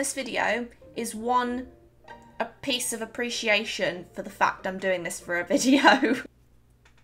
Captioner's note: laughs